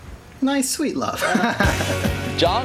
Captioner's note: both laugh